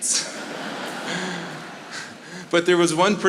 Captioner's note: audience laughing